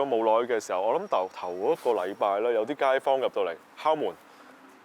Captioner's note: in English, of course